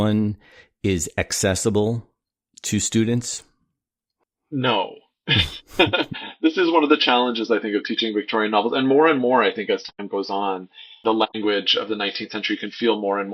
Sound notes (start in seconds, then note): 5.2 laughter